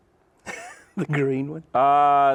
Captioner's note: laughs